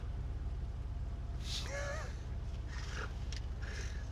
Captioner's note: both laugh